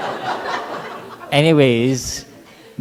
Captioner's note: laughter